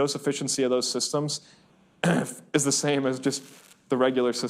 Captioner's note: coughs